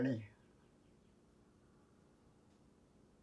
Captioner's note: pauses 8 seconds